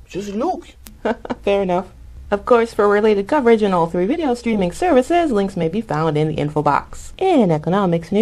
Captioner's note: chuckles